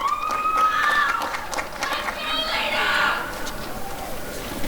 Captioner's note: applause and cheering